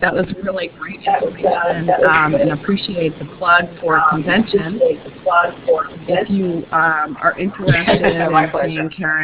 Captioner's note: huge echo